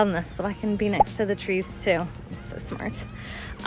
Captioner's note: video pops